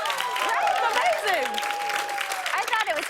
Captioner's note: cheers and applause